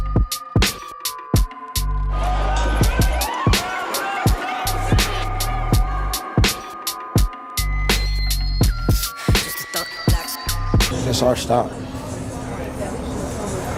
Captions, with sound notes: [ police sirens ] This is our stop.